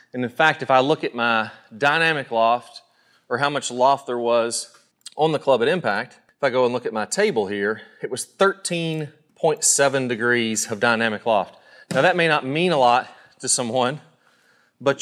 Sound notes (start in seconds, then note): none